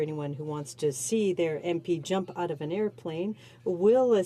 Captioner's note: speaking French